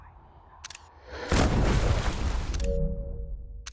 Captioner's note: thunder